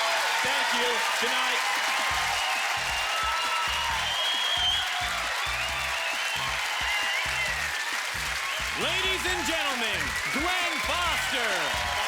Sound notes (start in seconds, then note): 1.5 cheers and applause